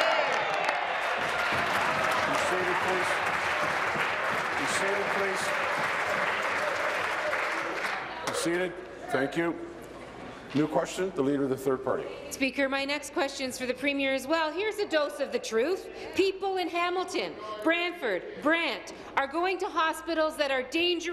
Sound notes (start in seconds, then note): 3.0 applause